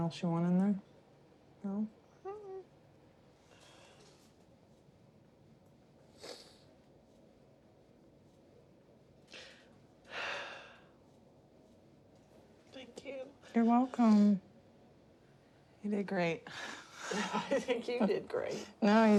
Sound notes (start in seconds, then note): 10.1 sighs